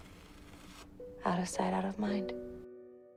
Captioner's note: voiceover